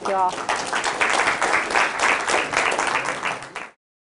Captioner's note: applause